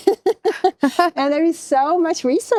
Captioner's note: laughs